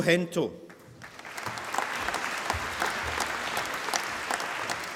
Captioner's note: applause